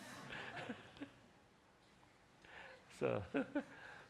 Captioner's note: laughing